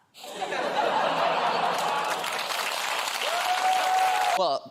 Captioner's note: applause